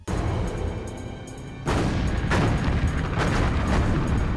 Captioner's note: gunfire